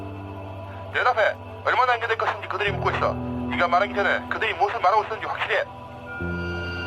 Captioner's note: pilots speaking in foreign language